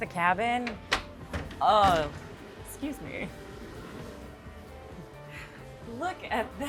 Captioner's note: door clicking open